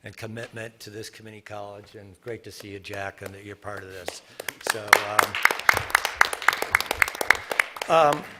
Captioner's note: applause